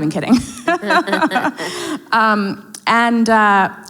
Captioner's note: both laugh